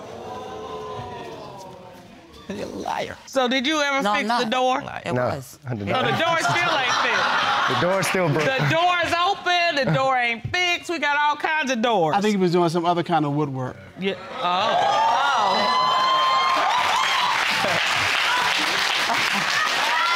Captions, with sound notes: (AUDIENCE EXCLAIMING) You're a liar. So did you ever fix the door? No, I'm not. No, I did not. So, the door is still like that. The door is still broken. The door's open. The door ain't fixed. We got all kinds of doors. I think he was doing some other kind of woodwork. You... Oh! (AUDIENCE EXCLAIMING) (AUDIENCE APPLAUDING)